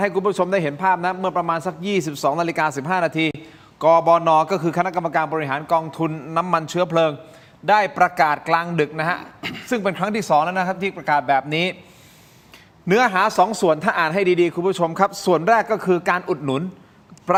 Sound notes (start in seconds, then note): 9.3 clears throat